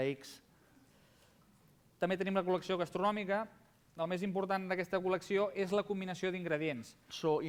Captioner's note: non-english speech